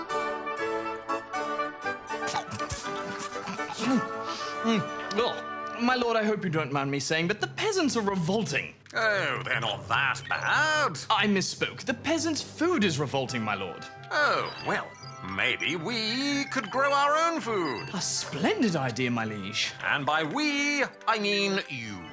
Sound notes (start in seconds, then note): 2.1 munches loudly